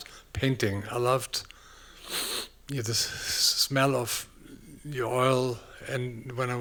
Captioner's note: sniffs